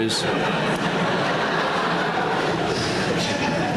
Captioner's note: laughter